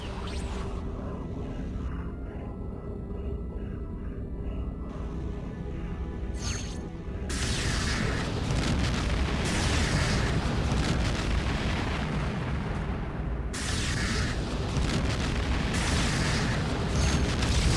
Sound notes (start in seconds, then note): 1.4 laser blasts; 13.5 laser blasts; 16.8 dramatic music